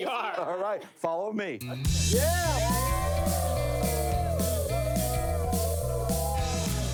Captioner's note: optimistic music; crew cheering